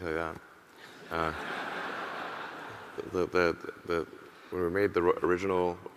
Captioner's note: audience laughing